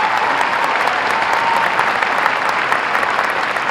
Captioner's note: applause